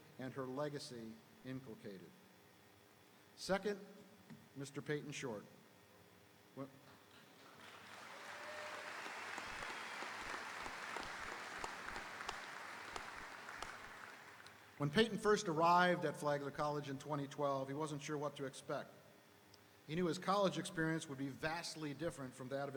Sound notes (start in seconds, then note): 7.5 audience applauding; 7.7 audience cheering